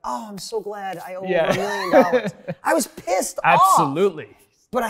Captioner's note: laughs